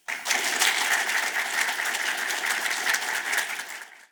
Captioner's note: audience claps